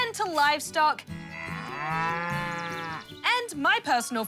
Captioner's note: cow moos